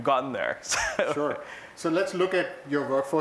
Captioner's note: laugh